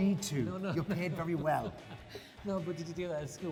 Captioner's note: laughing